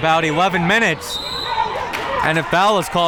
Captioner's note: whistle tweeting